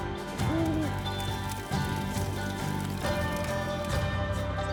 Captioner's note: fire crackling